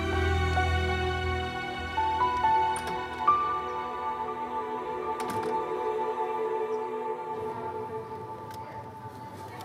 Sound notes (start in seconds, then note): 2.3 Door opens; 5.2 Door closes